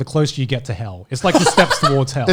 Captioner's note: laughing